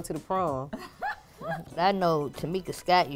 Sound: laughs

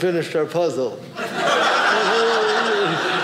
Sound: audience laughing

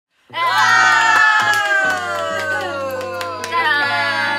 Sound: The Jen Tour snack video starts with a loud cheer♥

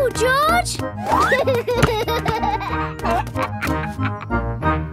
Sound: giggles

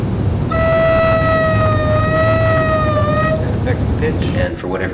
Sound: noise from pipe

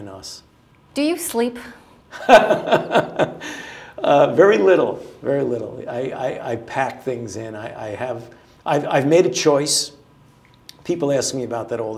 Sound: laughter

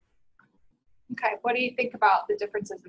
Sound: voiceover

